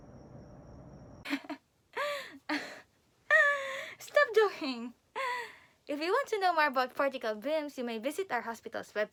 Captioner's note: laughs